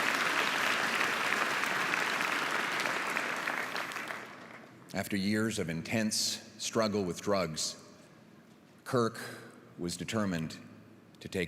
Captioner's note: applause